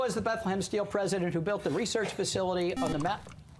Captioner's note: buzzer